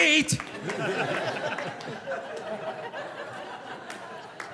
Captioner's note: audience laughing